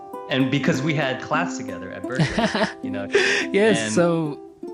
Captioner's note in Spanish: risas